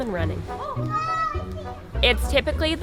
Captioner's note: child cheering